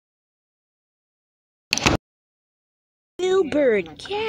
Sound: door opens

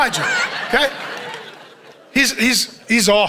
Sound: congregation chuckles

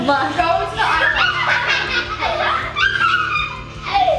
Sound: laughs

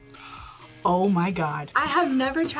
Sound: gasps

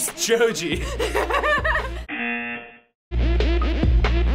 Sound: laughs; buzzer

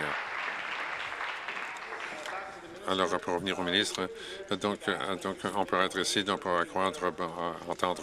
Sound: applause

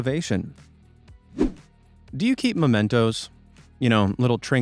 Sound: swoosh

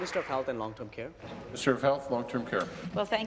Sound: applause

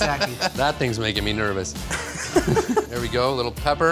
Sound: laughs

